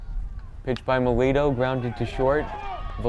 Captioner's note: bat cracks